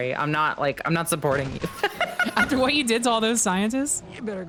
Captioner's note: laughs